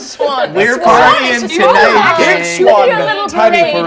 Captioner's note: everyone chattering